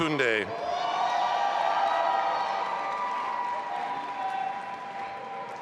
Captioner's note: audience applauding and cheering